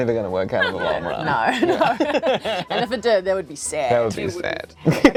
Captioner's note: laughs